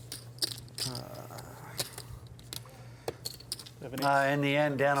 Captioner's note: groans